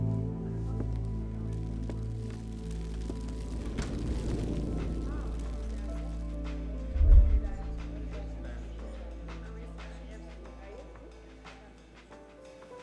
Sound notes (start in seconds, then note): 3.6 energy crackling; 5.3 rhythmic music; 6.6 crowd chattering